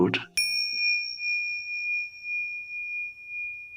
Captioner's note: bell dinging